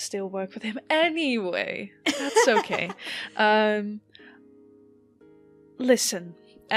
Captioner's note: More giggles from Alyssa